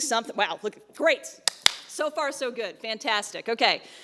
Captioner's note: claps